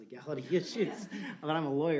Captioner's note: laughter